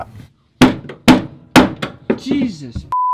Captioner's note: hammer pounding